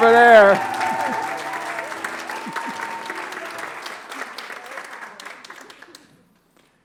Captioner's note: applause